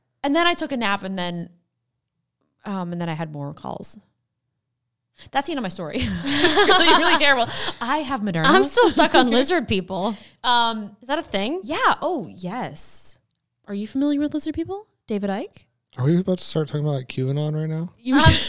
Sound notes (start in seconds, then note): 6.0 laughing; 18.2 both laughing